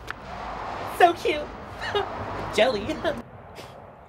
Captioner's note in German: lacht